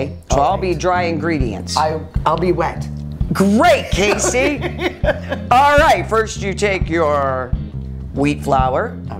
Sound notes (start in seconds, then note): 3.9 laughs